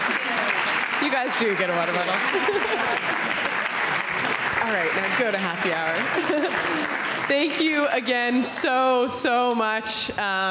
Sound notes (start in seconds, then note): 2.2 laughs; 3.8 audience clapping; 6.0 laughs